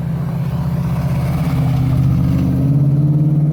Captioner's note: loud exhaust sound from truck